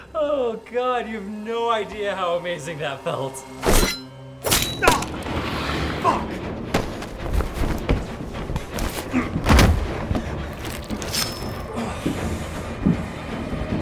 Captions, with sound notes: Oh God, you have no idea how amazing that felt. [knife stabbing] - Oh! Fuck! [flesh tearing, pulling out knife]